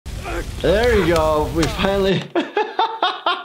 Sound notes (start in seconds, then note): 0.2 screaming and grunting; 2.0 laughs